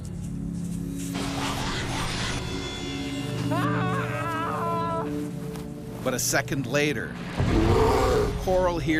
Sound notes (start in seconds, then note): 1.5 eerie whooshing; 3.8 yelling; 6.4 voiceover